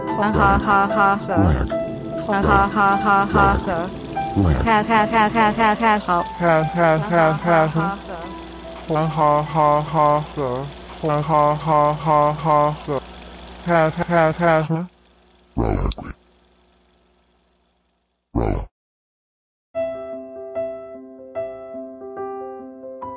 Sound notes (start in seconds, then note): 2.0 film reel turning; 15.5 low growling; 19.8 gentle piano music